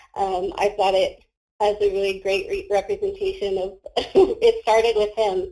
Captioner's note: laughs